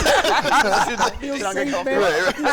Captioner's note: laughter